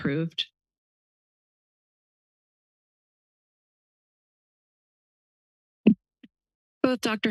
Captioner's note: silence